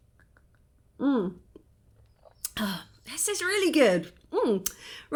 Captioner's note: sigh